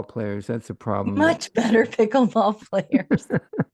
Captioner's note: laughter